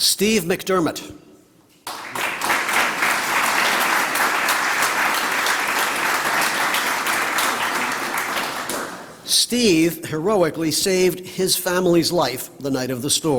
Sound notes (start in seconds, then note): 1.8 applause